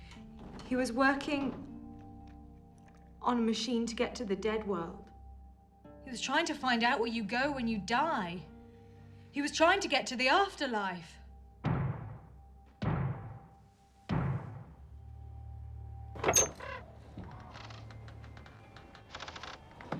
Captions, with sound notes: He was working on machine to get the to dead world. He was trying to find out where you go when you die. He was trying to get to the after life. (loud banging) (ominous music)